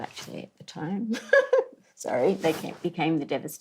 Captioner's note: laughs